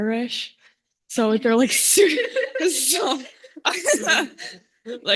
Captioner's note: laughter